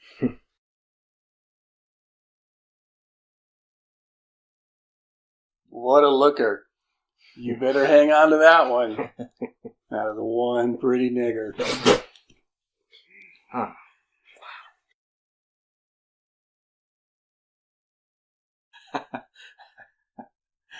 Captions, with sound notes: [slight chuckle] [long silence] What a looker. You better hang on to that one. That is one pretty nigger. [chokes on beer] Ah! [long silence] [chuckles]